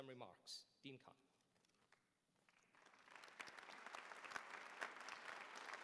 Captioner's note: applause